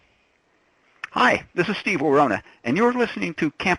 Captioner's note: voiceover